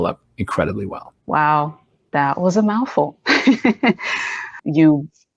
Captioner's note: laughs